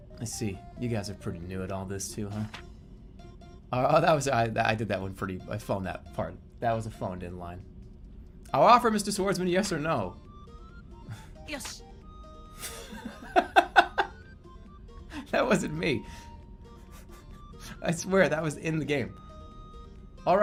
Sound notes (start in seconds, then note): 12.7 bursts out laughing; 16.8 continues giggling